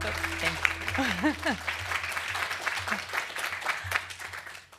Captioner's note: applause